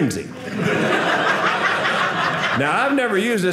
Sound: audience laughing

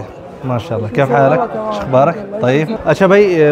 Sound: Arabic

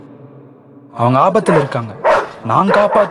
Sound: dog barks

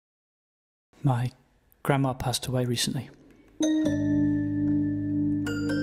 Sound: voiceover; soft somber music playing

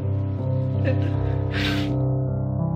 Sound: sniffs; no audio, piano music plays slowly

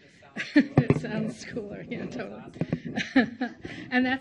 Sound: chuckles

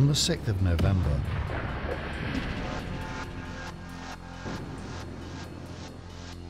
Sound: explosion booms

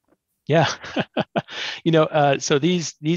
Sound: laughs

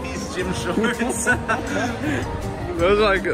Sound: laughs

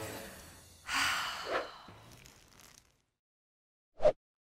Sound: exhaling

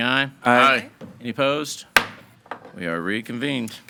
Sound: gave thuds

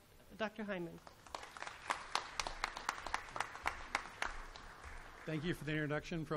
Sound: applause

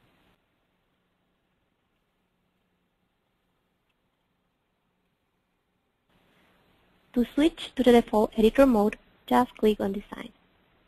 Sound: pause

